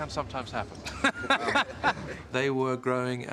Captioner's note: laughing